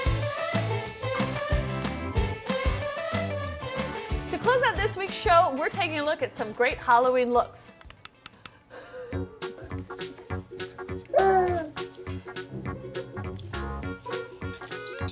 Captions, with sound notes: (upbeat music) - To close out this week's show, we're taking a look at some great Halloween looks. (cheerful music) (baby gurgles)